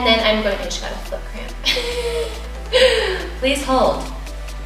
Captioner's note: laughs